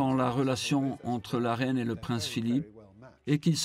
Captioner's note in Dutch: none